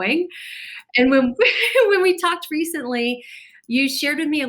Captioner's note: chuckles